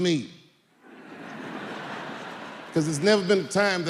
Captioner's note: audience laughing